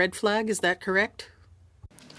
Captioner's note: speaking french